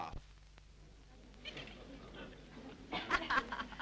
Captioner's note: background chatter; Mildred laughs